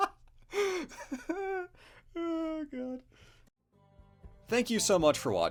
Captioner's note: laughing